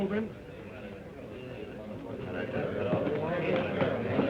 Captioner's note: crowd talking